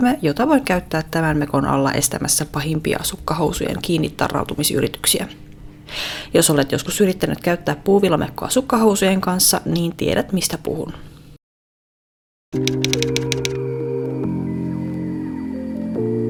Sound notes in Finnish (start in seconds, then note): 12.5 kirjoituskoneen naputusta